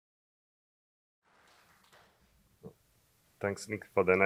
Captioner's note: applause